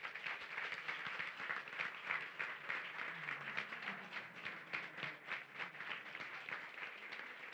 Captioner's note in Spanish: Aplausos